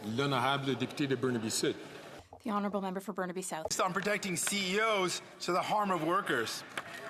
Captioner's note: some Applause; speaking French